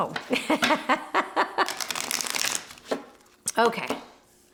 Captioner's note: laughs